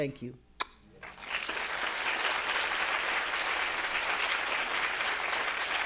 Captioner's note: audience applauding